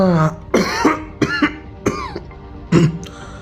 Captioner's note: coughs